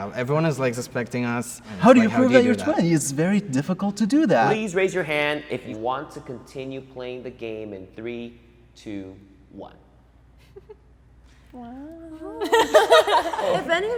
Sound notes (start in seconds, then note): 12.0 giggles; 12.4 crowd laughs